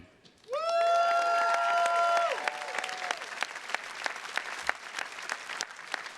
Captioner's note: attendees cheers and claps